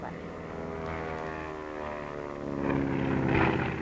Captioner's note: plane whirring